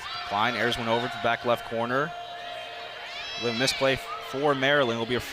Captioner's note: arguing